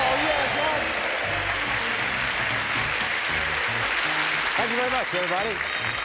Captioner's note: applause, cheering